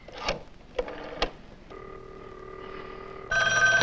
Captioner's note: dial tone droning; phone ringing